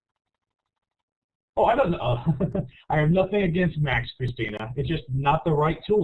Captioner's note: laughs